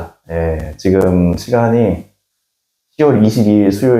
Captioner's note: the mic crackles during the intro